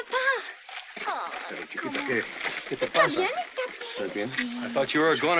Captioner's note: in spanish